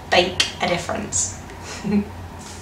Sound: laughs

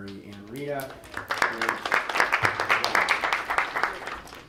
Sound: applause

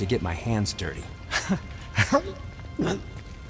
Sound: gags

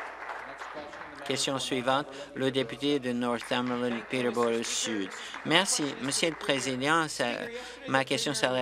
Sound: applause

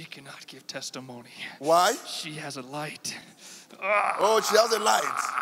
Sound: demon grunting

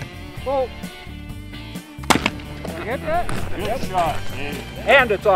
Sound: gun fires

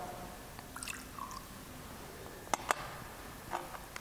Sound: drink pours

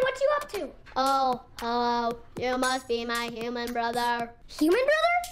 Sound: robotic Voice

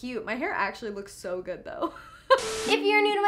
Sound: laughs

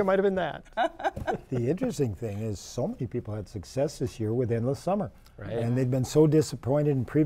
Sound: laughter

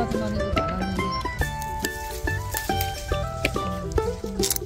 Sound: rustling; crunch!

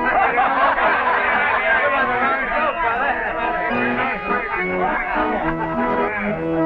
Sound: guffaws

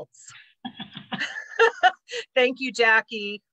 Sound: laughs

